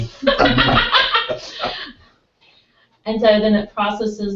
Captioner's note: laugh